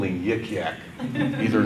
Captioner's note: audience laughter